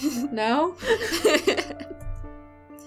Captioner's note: laughter